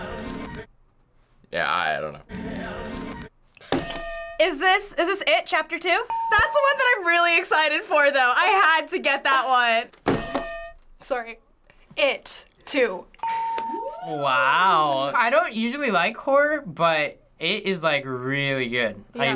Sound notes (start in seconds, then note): 3.8 ding; 3.8 hitting bell; 10.2 hitting bell; 13.2 ding